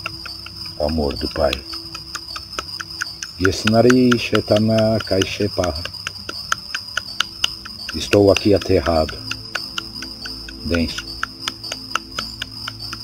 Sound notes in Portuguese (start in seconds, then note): 4.2 vibração